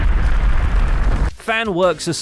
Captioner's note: explosion